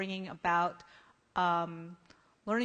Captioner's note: none